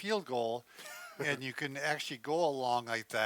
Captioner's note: laughter